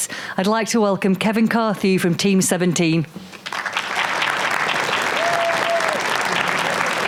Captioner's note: applause